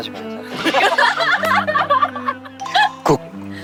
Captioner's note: hahahahahahaha